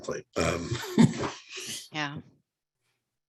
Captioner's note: laughs